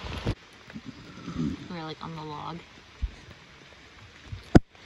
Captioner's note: frog jumps